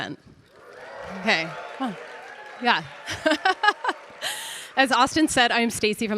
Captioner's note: audience cheering; laughs